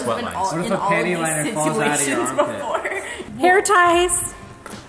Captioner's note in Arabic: أطفال يتحدثون